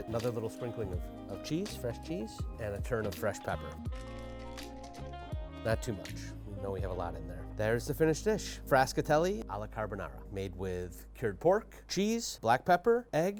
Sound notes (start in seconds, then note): 3.9 grinding pepper